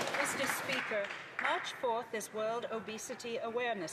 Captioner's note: applause